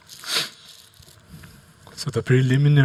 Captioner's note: sniffles